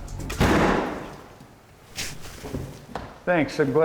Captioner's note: door slams